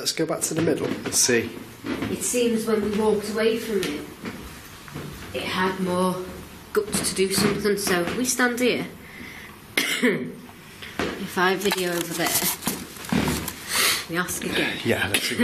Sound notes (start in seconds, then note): 9.8 coughs